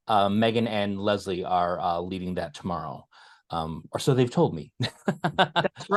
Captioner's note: laugh